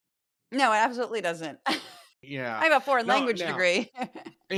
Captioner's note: laugh